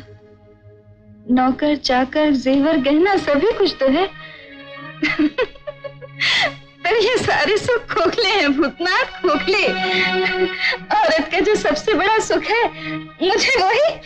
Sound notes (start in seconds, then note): 5.0 laughs; 9.9 chuckles